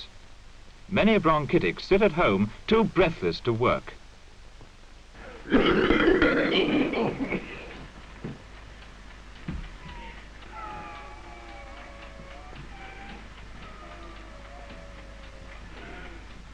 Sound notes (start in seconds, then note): 5.2 coughing; 8.7 wheezing